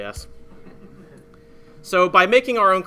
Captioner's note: laughing